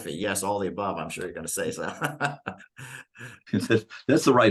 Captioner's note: laughing